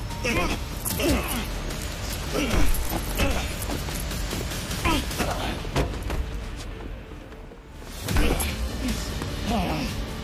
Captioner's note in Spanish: Ruidos de la lucha